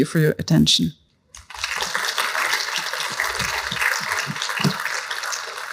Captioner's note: applause